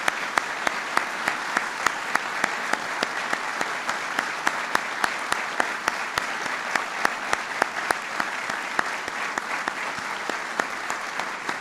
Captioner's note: applause